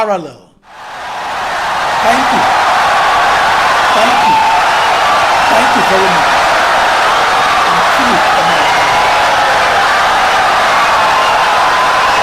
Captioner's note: wild applause and cheering for 17 seconds